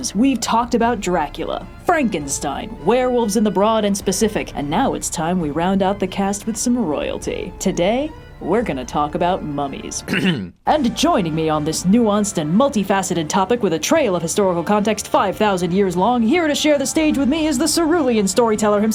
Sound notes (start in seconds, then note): 10.0 ahem